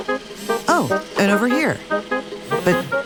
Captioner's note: vacuum motor whirring; phone buzzing